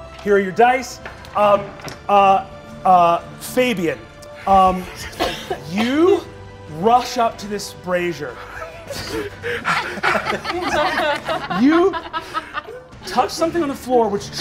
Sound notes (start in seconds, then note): 8.4 all laugh